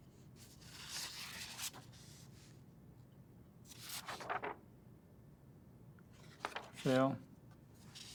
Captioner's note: paper rustles